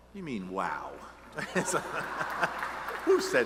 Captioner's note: laughs